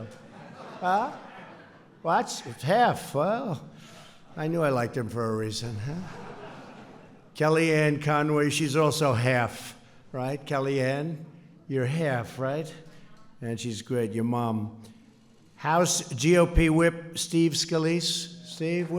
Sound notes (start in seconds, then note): 5.8 laughter